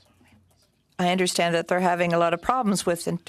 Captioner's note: speaking French